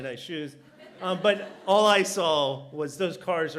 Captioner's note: laughter